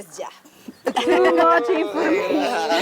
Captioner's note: laughs